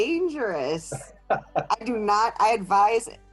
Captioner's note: laughing